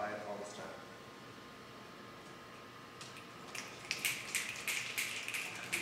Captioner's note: audience snapping